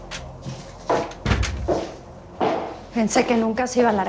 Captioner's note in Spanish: Portazo